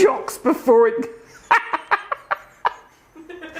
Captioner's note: laughs